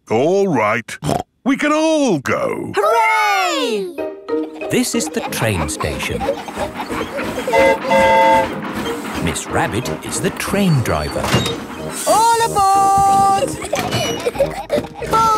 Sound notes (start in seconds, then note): 7.5 train whistle toots; 13.0 giggling